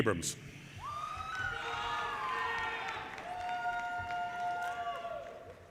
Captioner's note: audience cheers and applause